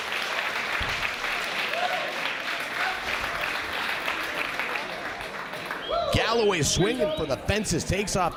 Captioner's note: applause